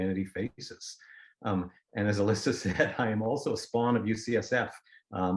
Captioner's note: laughter